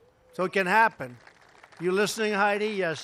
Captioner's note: applause